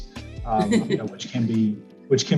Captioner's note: chuckling